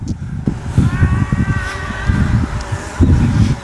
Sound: roaring

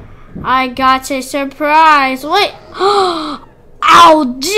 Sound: gasp

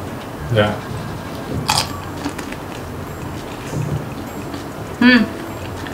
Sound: crunchy eating

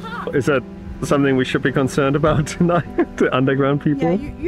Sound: nervous laughter

